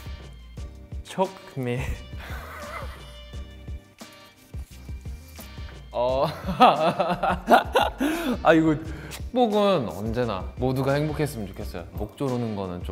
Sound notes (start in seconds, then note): 2.2 chuckles; 6.3 laughs; 9.5 speaks Korean